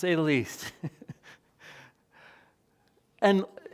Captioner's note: chuckles